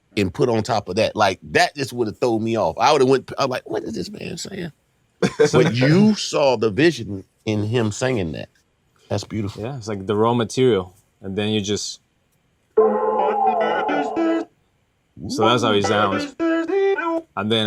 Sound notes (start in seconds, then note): 5.2 laughing